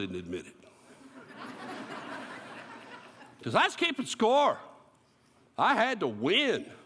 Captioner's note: laughter